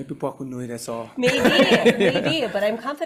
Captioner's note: group laughing